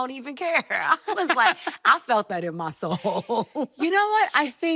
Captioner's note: laughing